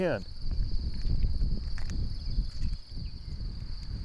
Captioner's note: crickets chirping